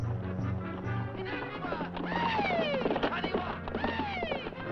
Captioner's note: men shouting